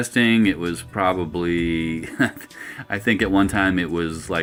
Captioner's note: chuckles